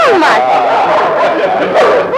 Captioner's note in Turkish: Çevreden kahkahalar